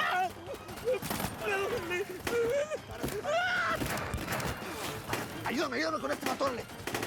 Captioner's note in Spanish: quejidos